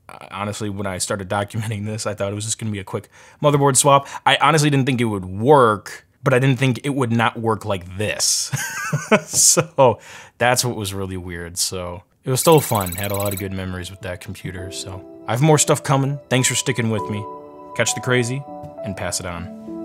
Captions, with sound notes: Honestly, when I started documenting this, I thought this was gonna be a quick motherboard swap, I honestly didn't think it would work, but I didn't think it would not work like this (chuckles). So that's what was really weird, so it was still fun, had a lot of good memories with that computer, so I have more stuff coming, thanks for sticking with me, catch the Krazy and pass it on.